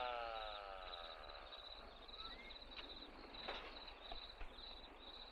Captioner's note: crickets chirping